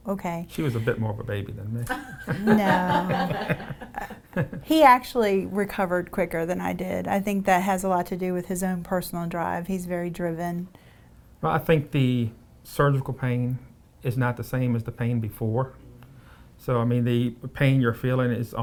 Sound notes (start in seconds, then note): 1.9 interviewer laughing; 4.6 person in blue laughing